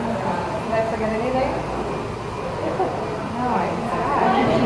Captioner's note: chuckles